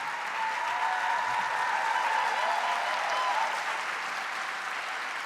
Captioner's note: audience cheering